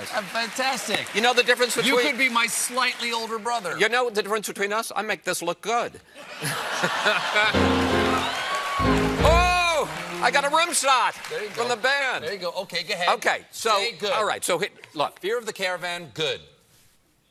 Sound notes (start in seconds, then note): 7.2 cheers and applause; 7.5 piano riff